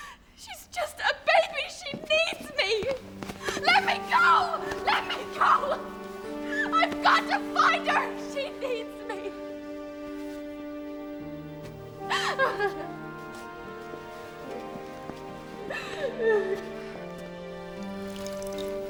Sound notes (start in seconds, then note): 12.0 sobbing; 12.4 gentle music